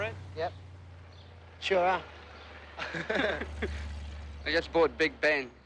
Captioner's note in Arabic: يضحك